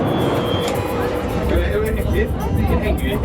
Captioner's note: cart screeches; happy music